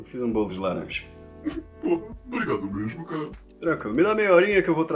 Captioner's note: sobbing